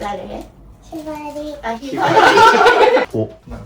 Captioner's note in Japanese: 笑い